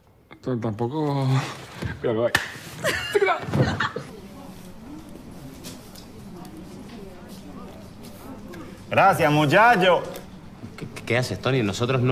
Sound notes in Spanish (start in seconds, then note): 8.9 con acento canario